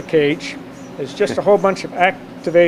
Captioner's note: chuckles